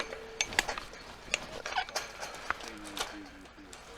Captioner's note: rail dings; pull jack clanks